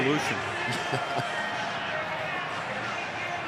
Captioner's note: laughing